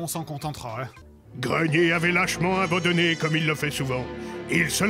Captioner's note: voiceover